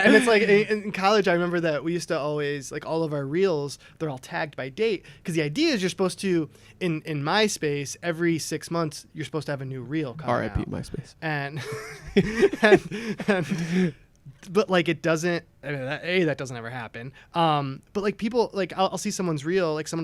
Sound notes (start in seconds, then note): 11.5 laughter